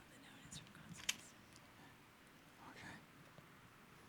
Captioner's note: woman whispering